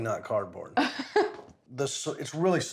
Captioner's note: laughs